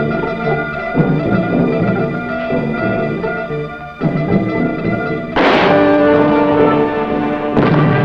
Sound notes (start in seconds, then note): 1.4 bomb explodes